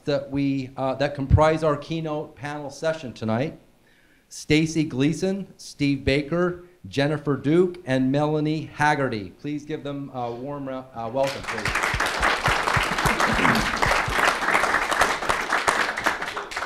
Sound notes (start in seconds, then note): 11.2 audience applauding